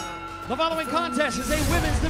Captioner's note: bell ringing